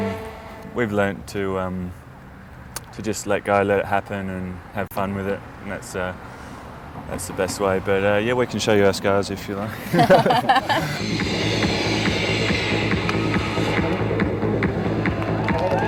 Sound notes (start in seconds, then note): 9.7 both laughing; 11.8 upbeat music